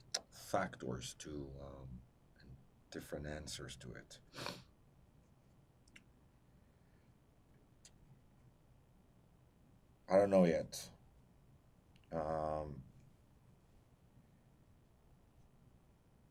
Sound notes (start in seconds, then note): 4.6 pauses 6 seconds; 11.5 pauses 10 seconds